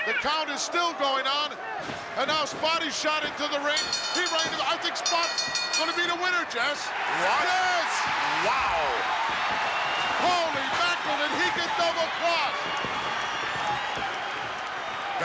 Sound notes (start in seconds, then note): 3.7 bell rings; 9.2 crowd cheers